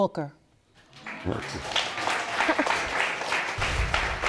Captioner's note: audience applauding